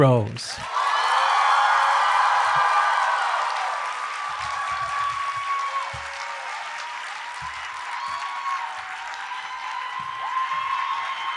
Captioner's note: applause